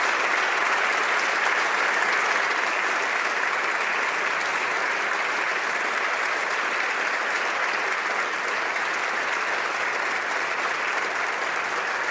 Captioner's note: applause